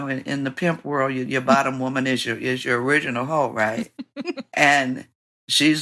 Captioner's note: laughter